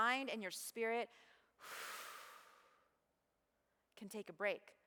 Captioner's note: breathes